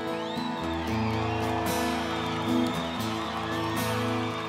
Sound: audience cheers

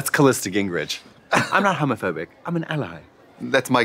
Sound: British accent

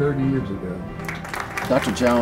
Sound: applause

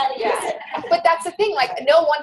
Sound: voiceover

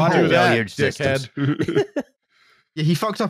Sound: laughter

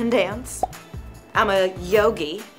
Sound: pop sound

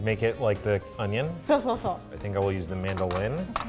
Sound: speaks in foreign language

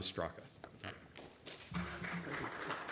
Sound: audience applauding

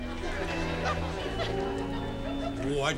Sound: audience laughing

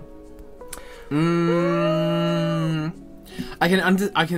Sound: suspecious Hmming

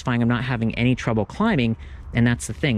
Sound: none

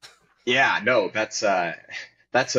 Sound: chuckling

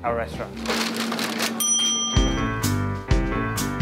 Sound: service bell rings

